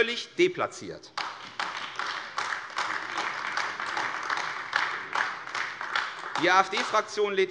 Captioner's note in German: Beifall AfD